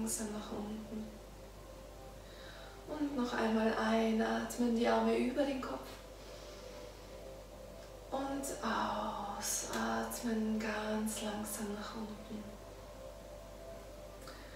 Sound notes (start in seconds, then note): 6.2 inhaling